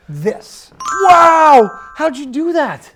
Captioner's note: dry erase board twinkling